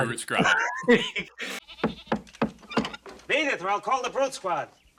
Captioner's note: laugh; knocking